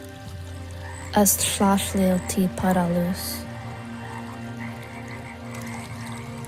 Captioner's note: water trickling; narrator speaks in foreign language